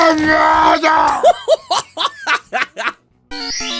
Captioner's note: laughs hysterically